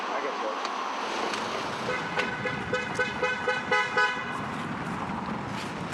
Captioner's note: honking